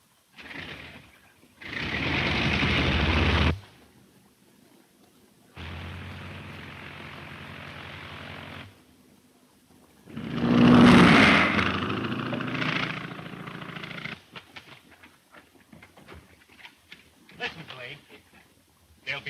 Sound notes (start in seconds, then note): 1.6 Phantom revving; 10.1 Phantom buzzing